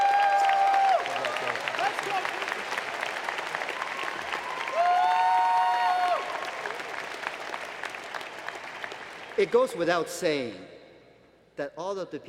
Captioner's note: applause